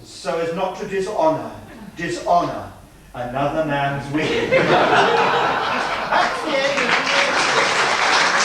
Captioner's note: laughter and applause